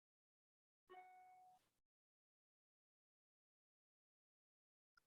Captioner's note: notification chiming